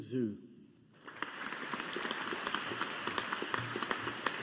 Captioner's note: audience applauding